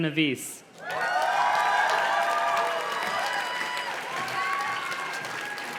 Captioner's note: audience cheers and claps